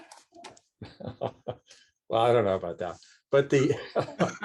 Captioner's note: laughs